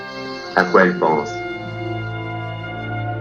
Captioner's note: voiceover of man speaking in french; mournful and reflective music